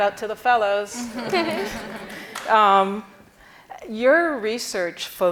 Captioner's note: audience chuckling